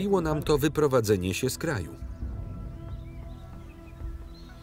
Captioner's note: birds chirp